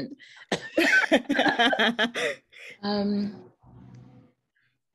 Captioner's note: laughing